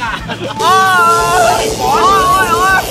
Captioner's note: gasps; screams